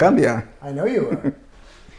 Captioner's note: laughs